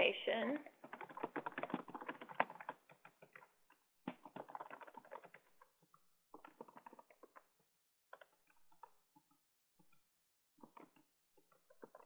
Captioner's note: typing Sounds